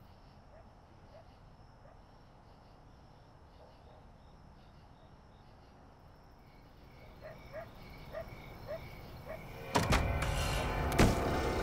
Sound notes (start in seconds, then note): 7.2 insects chirping; 8.6 dog barking